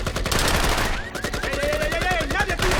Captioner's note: car alarm sounds